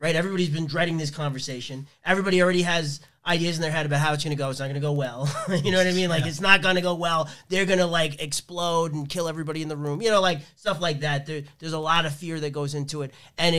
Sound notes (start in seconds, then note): 5.2 laughs